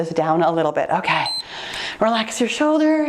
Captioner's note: timer beeps